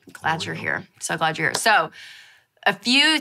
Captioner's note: claps